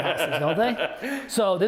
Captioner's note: laughs